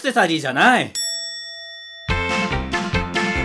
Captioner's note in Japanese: 擬音